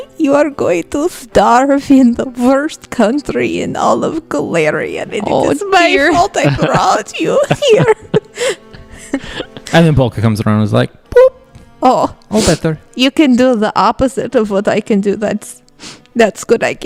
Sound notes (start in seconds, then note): 7.2 laughs